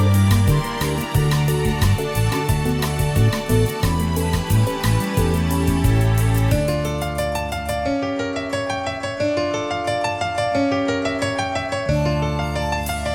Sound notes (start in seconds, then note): none